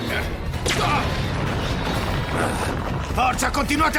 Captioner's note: explosion